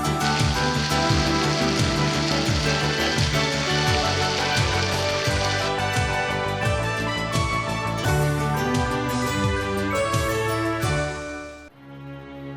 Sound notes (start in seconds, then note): 0.6 water cascading and music playing; 6.2 upbeat music continues